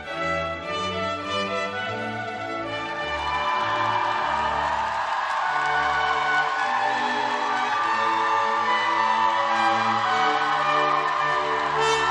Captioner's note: cheers and applause